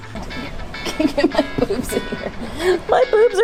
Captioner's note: laughing